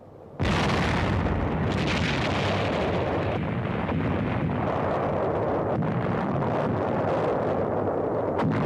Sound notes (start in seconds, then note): 0.4 artillery firing